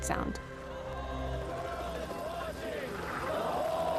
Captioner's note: helicopter blades whirring